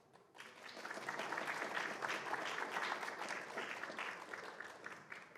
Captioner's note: applause